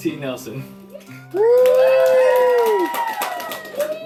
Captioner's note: cheering